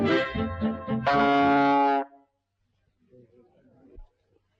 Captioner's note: horn bleating